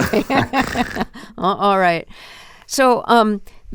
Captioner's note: laughter